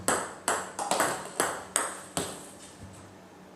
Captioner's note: ball ping pong hitting